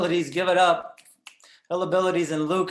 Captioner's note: snaps